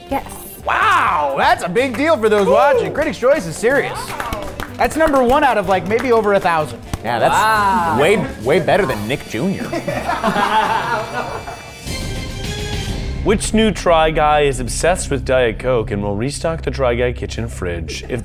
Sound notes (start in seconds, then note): 9.8 all laughing; 11.9 dramatic music